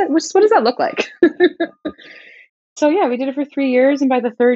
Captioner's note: laughter